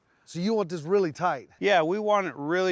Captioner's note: none